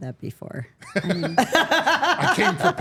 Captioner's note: all laughing